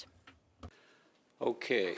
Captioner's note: speaking French